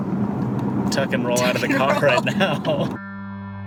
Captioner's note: laughing